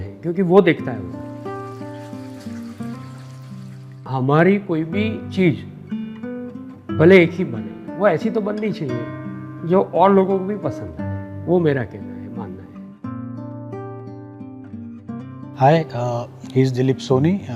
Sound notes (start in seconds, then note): 1.2 water gushing into the pool